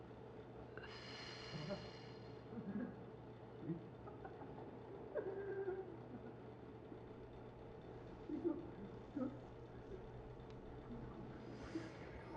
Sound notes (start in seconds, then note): 1.6 laughing; 8.6 crying